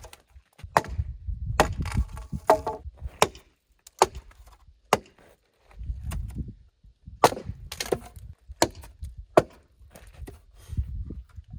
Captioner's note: stacking noises